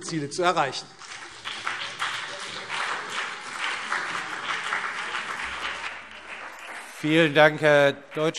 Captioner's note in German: Beifall CDU und BÜNDNIS 90/DIE GRÜNEN